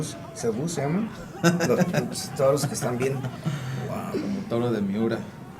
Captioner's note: laugh